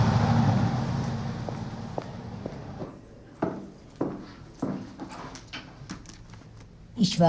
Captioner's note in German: Schritte